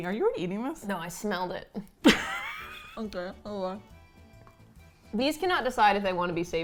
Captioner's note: laughs